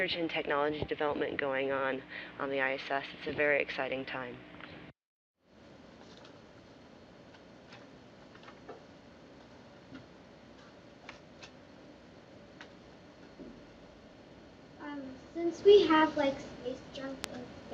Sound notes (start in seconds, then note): 4.6 silence